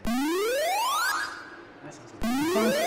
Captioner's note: video games beeping